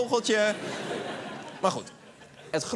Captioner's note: laughter